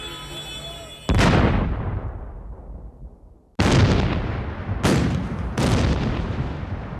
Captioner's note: explosions